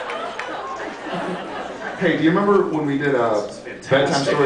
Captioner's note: laughs